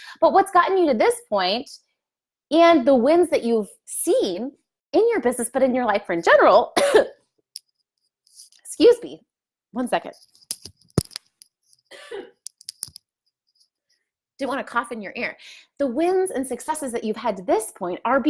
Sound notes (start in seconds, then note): 6.8 coughs; 11.9 coughing